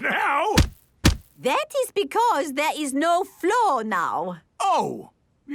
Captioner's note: thuds